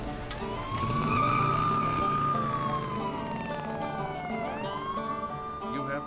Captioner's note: closes truck door; police sirens, tires screech